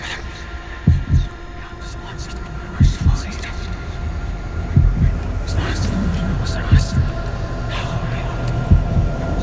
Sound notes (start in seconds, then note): 5.9 wind whistling